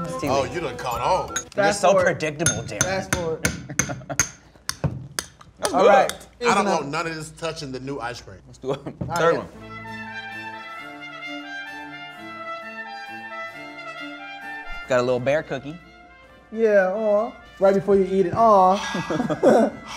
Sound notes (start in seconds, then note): 3.9 cup clinks; 9.8 soothing music; 18.7 exhales loudly